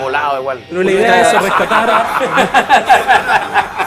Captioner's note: laughter